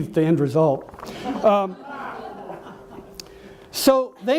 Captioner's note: audience laughs